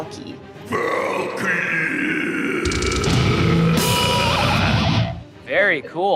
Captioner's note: screaming